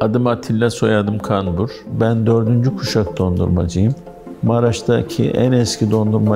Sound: speaking in foreign language

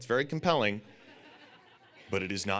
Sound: audience laughing

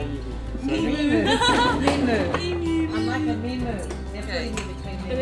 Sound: laughs

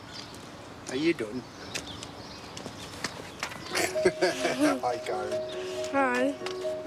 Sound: laughs

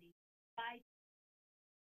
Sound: audio cuts

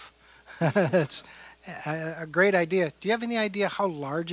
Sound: laughing

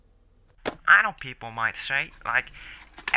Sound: on the Radio

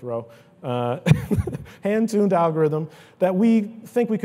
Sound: laughs

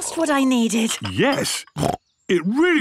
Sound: snorts

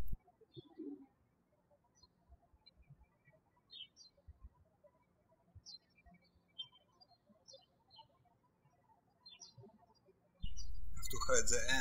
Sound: birds chirping

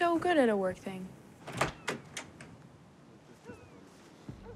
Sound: dog barking in distance

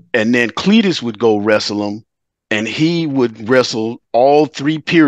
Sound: none

